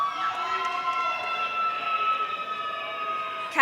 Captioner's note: audience cheering